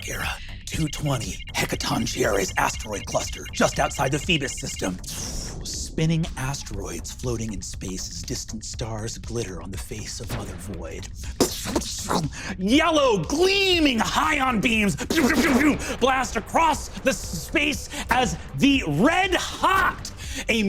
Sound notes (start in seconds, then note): 11.1 vocalized explosions